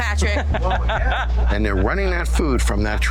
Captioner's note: laughter